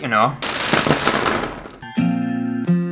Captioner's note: ducks Clattering